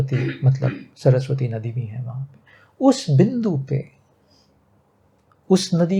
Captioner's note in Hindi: गला साफ़ करने की आवाज़